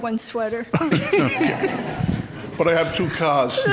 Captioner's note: laughs